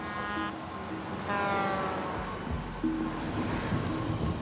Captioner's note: truck horn honks